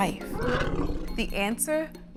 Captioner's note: mammoth growls